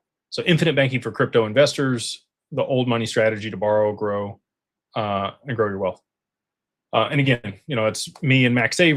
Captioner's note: none